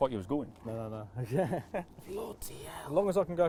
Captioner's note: laughing